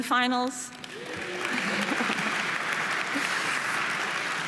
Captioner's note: audience applauding